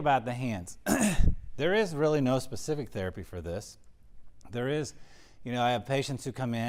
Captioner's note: cough